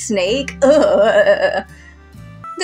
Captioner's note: chuckle; disgusted Shudder